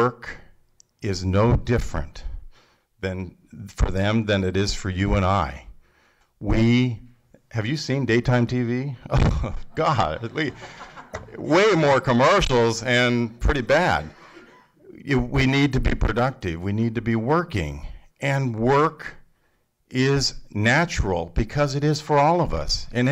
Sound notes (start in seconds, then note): 9.1 laughter